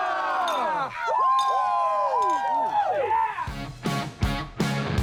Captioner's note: people cheering; bottles clinking; lively upbeat music